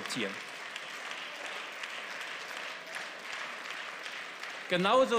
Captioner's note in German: Beifall